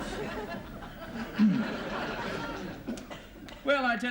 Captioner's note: man clears throat